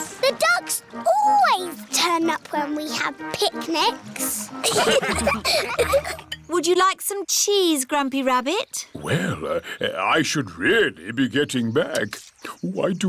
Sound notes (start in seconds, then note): 4.6 laughter